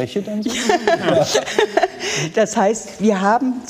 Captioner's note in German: Sie lacht